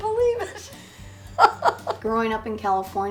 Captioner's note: laughs